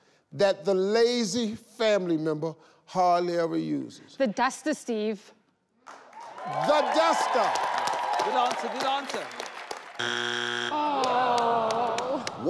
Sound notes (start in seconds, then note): 7.7 audience clapping; 10.0 buzzer buzzes